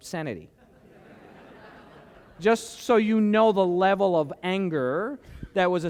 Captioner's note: laughter